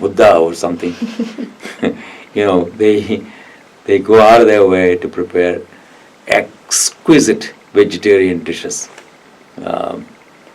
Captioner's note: laughs